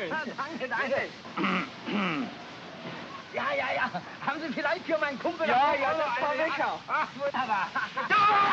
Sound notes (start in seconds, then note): 1.8 clears throat; 3.2 speaking in German; 7.8 yelling & commotion